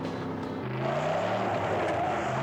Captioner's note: tires screech